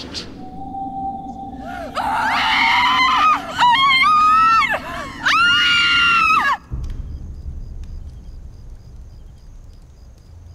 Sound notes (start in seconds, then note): 1.6 women screaming; 7.0 anxious music